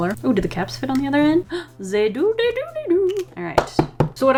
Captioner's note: gasps; tap, tap, tap